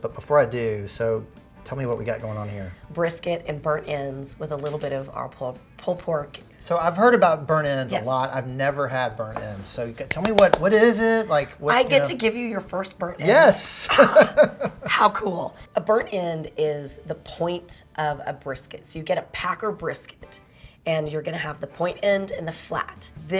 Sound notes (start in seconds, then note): 10.0 claps; 13.6 laughs